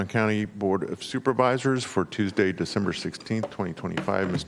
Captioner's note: gavel